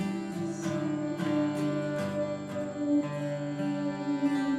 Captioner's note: distant howling